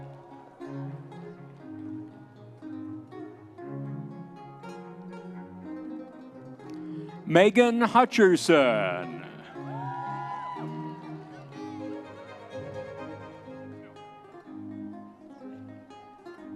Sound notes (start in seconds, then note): 0.0 audience members cheering; 9.7 audience members cheering